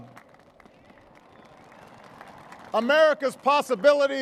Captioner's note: applause